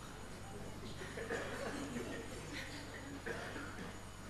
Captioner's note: laughter